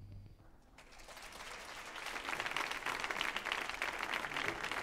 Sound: audience applauds

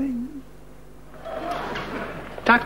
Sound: audience laughing

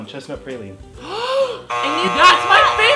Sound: inhales

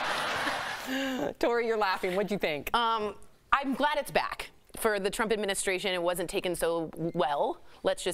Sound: laughter

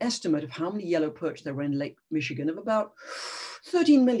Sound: inhales sharply

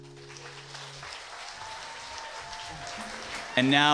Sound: applause

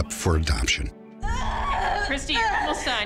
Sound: screaming

